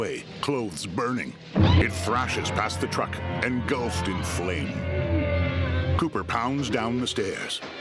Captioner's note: shrieking